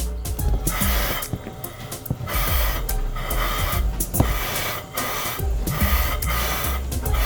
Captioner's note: playful music continues; steam hissing